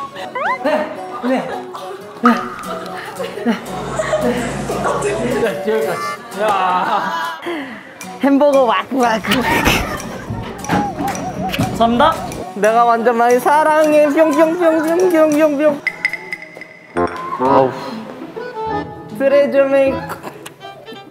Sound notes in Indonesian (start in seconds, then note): 9.2 Reaksi besar